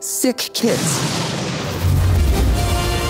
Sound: heroic music; loud boom

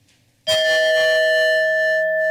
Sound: timer dings

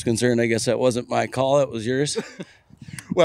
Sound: laughs

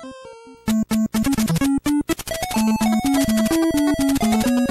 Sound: game audio

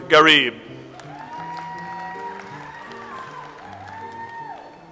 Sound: audience applauds

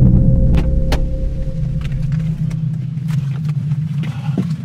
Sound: ominous music; door opening; rustling noises; heavy breathing

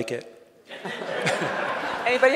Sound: audience laughing

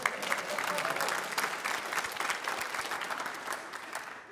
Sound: applause

